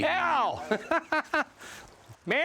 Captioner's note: laughs